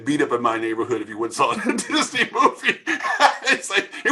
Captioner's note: laughing